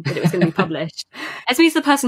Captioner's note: laughs